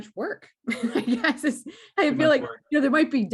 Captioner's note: chuckles